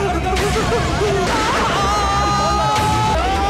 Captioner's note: Gunshot